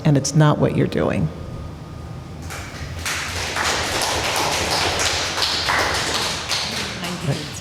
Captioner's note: applause